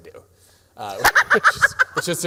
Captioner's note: laughs